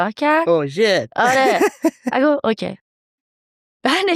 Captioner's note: laughs